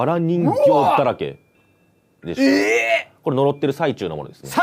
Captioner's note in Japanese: 叫び声